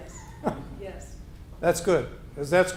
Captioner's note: chuckling